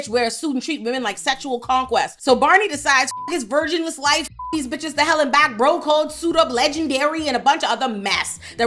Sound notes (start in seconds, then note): 3.0 beep